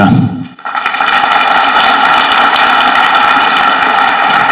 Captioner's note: audience clapping